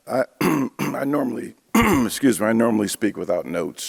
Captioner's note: clears throat